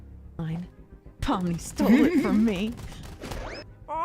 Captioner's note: Jax ball clipping noises